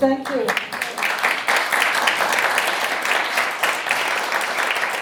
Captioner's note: audience applauding